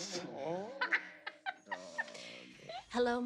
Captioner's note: laughing while everyone else groans